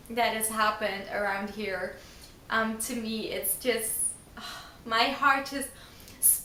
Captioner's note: sigh